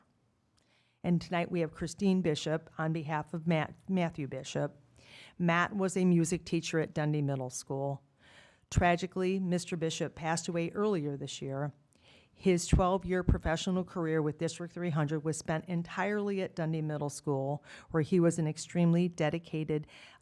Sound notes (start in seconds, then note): none